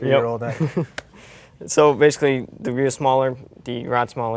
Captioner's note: giggles